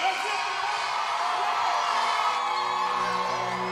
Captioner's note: crowd cheering